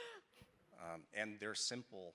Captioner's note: panelist chuckling